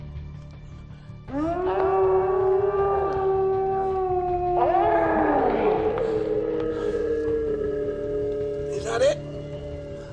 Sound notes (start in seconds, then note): 1.8 loud howl; 5.8 deep roar